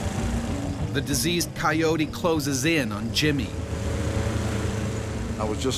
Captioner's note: voiceover